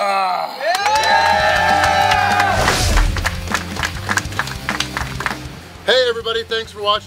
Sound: cheering & Clapping

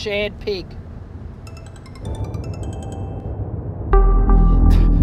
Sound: phone chiming

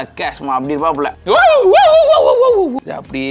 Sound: shouts out of joy

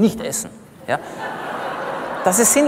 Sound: laughter from the audience

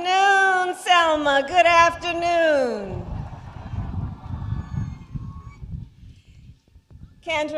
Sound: applause

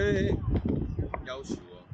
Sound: beijing dialect

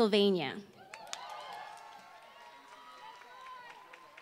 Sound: applause

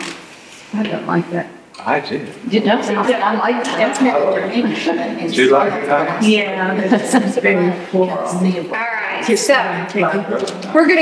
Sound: audience Conversation

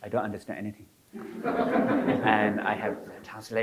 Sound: audience laughing

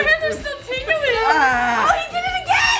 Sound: yelling

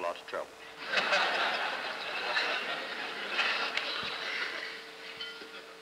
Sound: laughter

